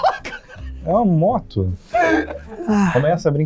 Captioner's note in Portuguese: risadas